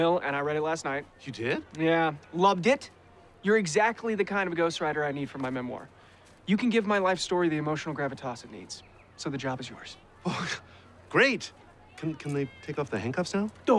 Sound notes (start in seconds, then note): 10.2 exhales sharply